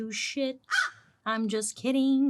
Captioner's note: Joan caws